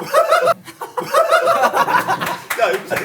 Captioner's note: laughing